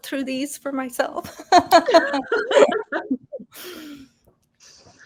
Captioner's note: women laughing